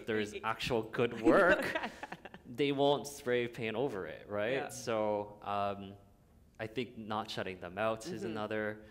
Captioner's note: chuckle